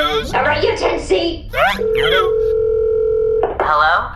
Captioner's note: phone ringing